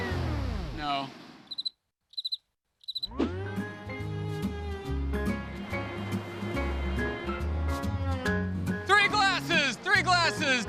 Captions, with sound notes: No. (crickets chirping) Three glasses! Three glasses!